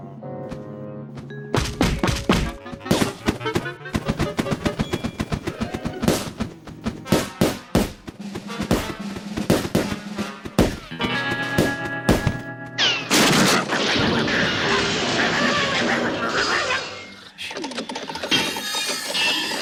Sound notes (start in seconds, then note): 1.7 balloons popping; 13.0 barking viciously; 17.3 saw whirring, metal clattering